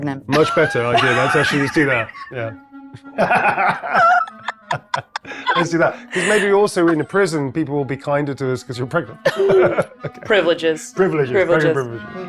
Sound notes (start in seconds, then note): 3.0 everyone laughs